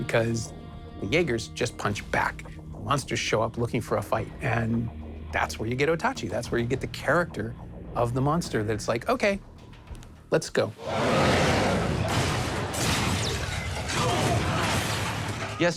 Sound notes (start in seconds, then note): 10.8 monster growling; 12.9 electricity whirring